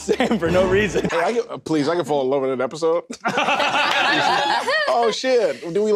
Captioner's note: table breaks into laughter